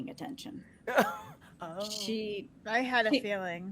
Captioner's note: laughs